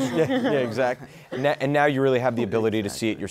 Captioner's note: laughter